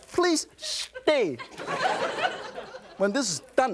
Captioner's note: laughter